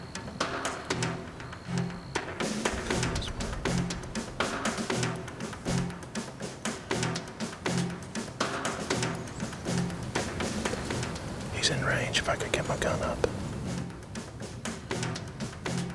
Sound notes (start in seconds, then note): 3.1 whispering